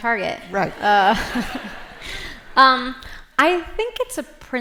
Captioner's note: laughter